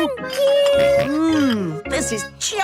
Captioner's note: snorts